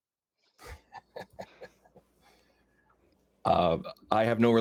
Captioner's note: chuckling